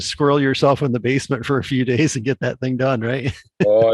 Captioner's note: chuckles